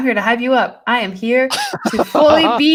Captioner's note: laughs